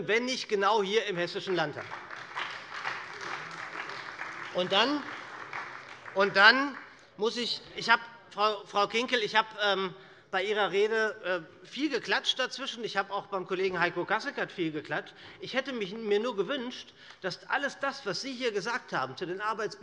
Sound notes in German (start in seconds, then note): 1.3 Beifall bei der SPD - Zuruf von der CDU